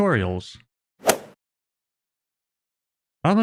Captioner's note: golf ball hit sound